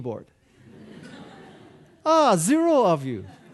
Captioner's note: audience laughing